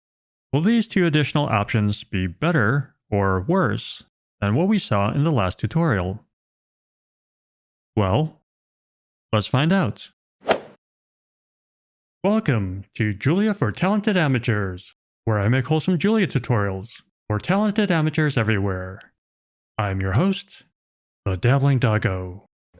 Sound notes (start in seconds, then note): 10.4 golf ball hit sound effect